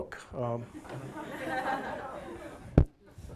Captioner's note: audience laughing